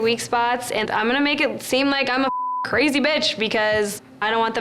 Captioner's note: beep